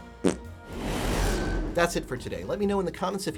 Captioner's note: fart sound